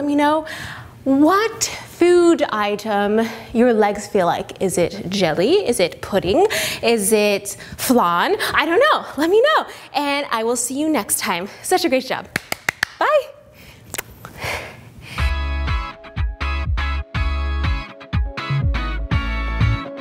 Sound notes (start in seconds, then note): 12.3 clapping; 15.2 upbeat music